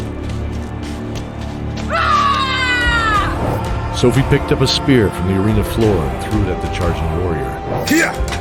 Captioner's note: battle cry